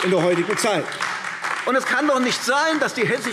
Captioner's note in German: Beifall AfD